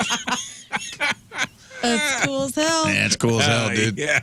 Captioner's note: laughing